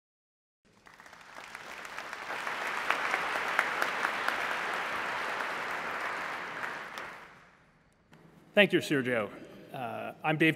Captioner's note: applause